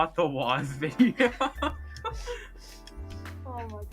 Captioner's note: laughing